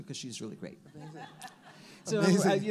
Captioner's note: all laugh